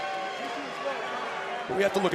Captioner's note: crowd shout